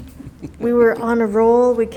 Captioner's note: participants laughing